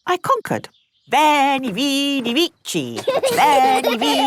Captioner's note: laughing